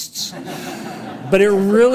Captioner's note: audience applauds